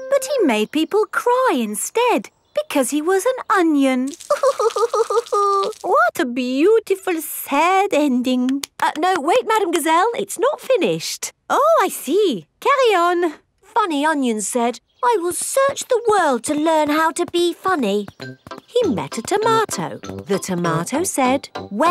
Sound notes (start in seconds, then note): 4.6 crying